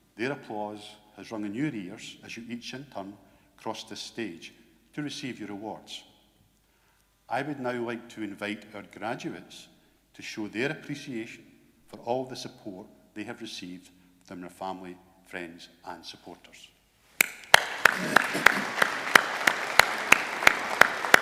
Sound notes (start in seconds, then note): 17.2 graduates applaud